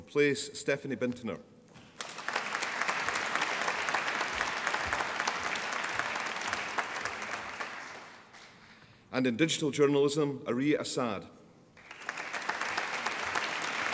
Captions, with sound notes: Stephanie Bintener. (APPLAUSE) And in Digital Journalism Areej Assad (APPLAUSE)